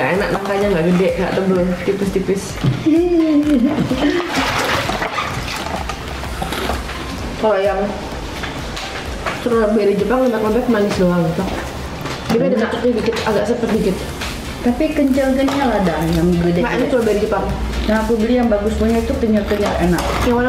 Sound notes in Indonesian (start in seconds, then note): 3.2 Ketawa